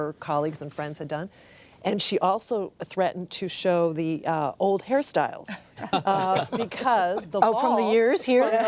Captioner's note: laughter